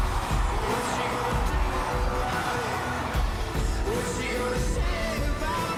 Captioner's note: crowd cheering